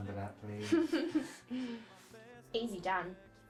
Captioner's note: laughing